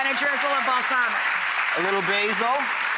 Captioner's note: clapping